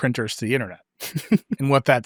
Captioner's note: laughs